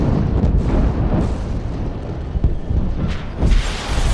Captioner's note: explosions echo